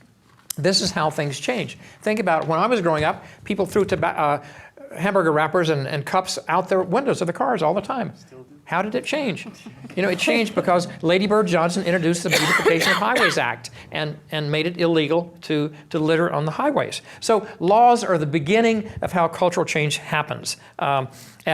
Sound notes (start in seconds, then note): 10.0 laughing